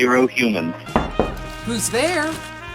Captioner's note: door knocking